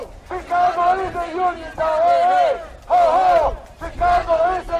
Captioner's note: chanting